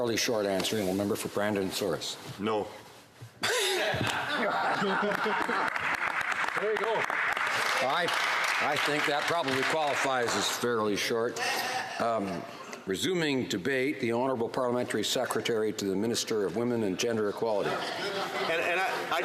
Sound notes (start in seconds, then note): 6.2 laughter; 10.1 some Applause